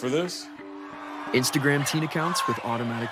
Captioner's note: crowd cheering